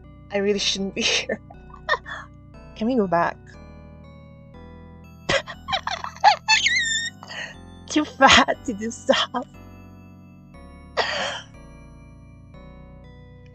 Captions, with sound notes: "I really shouldn't be here." "I really shouldn't be here." *small laugh* *small laugh* Can you go back? Can you go back? *laughing and squealing* *laughing and squealing* Too fat to do stuff! Too fat to do stuff! *inhale* *inhale*